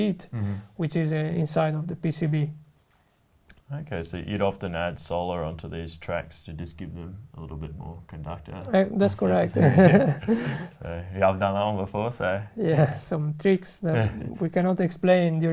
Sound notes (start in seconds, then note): 9.3 both laughs